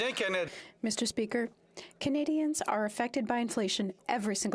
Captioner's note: speaking French